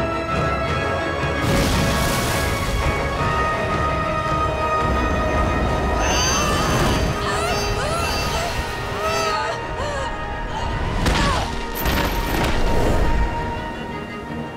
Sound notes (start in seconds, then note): 5.7 grunting; 11.0 thudding, grunting